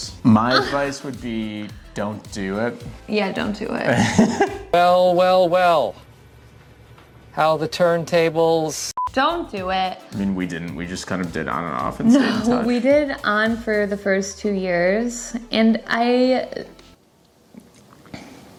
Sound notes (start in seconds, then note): 3.9 laughs